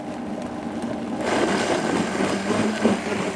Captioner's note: blender sounds